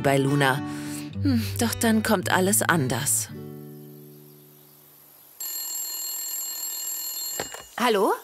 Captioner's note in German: Telefonklingeln; über Telefon